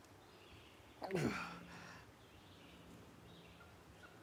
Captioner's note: Arawn groaning